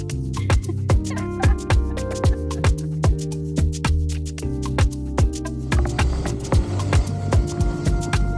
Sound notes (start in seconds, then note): 1.0 laughing